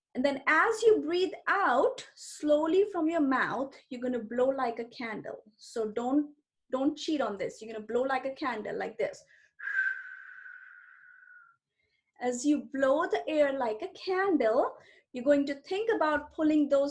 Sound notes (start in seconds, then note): 9.6 blows